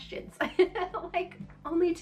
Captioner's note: laughing